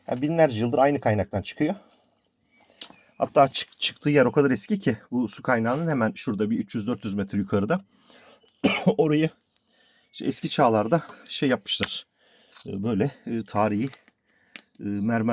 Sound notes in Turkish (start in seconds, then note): 8.6 boğazını temizler